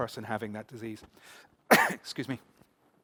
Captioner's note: coughs